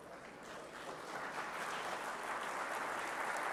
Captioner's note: applause